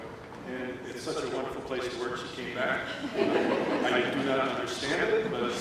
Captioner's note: laughter